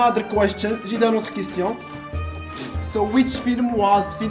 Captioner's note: speaking French